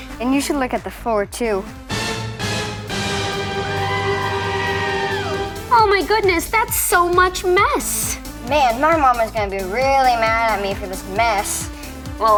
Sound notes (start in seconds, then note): 2.2 dramatic music; 4.0 lady yells